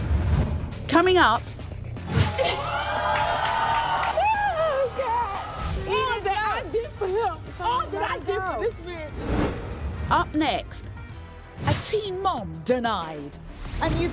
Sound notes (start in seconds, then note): 2.3 screaming